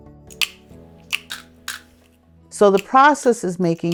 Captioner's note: tool clicking